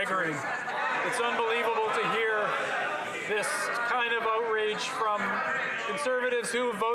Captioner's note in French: voix de l'interprète